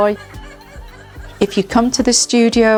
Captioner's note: laughter